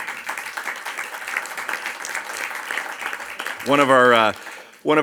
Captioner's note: audience applauds